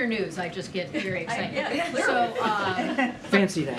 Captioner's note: laughter